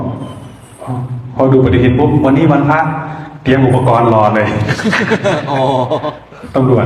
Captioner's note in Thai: เสียงหัวเราะ